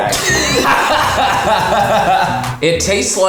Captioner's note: laughs